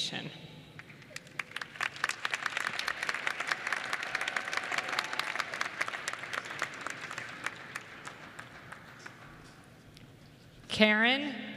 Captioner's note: applause